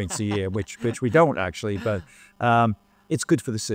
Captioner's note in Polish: śmiech